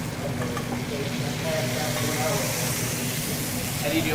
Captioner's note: sizzling